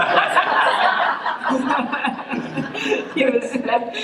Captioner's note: laughing